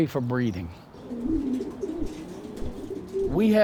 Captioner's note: pigeons cooing